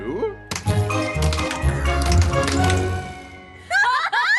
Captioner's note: clattering; hysterical laughter